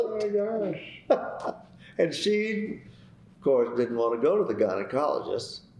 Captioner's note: laughter